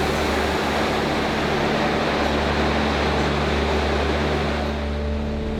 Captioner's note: subway clicking